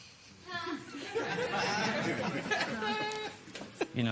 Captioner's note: laughter